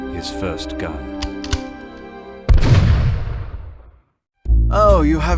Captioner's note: gunshot